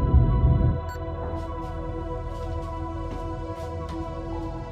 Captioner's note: soft celestial music continues; keypad beeps